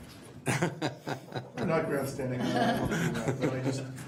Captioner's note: laughing